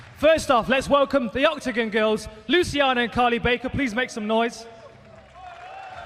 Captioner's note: cheers and applause